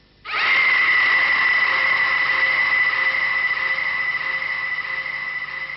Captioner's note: scream